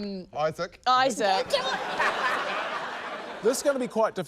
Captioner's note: laughs